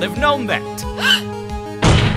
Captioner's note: gasp!